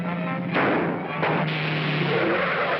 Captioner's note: gunshot; tire pops & hisses; tires squealing